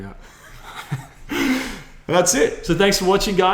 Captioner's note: laughs